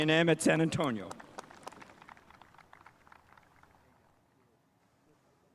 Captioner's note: spectators applauding